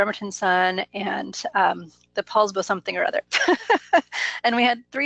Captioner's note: laughs